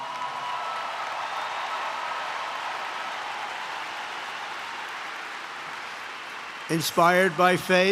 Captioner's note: applause